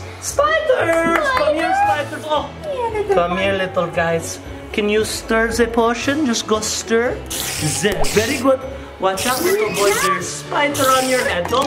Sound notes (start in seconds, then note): 7.2 spider plops